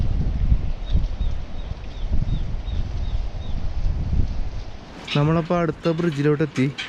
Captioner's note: wind